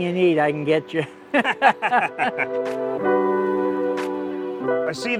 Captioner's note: both laughing